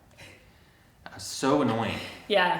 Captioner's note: chuckles